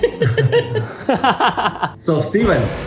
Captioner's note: laughs